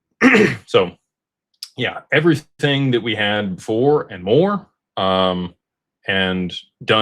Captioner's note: clears throat